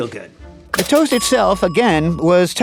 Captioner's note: bell pings